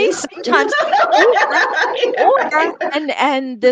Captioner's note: laughs